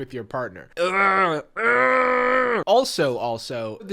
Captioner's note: grunting